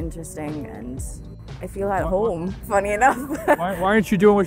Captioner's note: chuckles